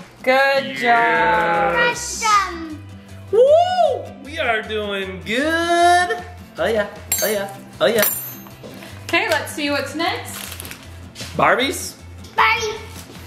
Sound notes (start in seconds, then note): 2.7 shouting